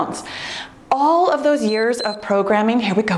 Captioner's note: timer beeps